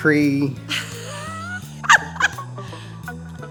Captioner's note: woman laughing